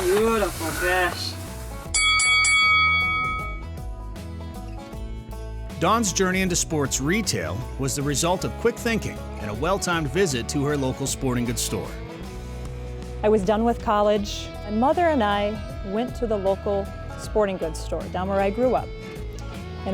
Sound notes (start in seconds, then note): 1.9 bell dings